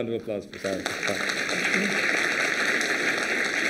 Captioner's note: applause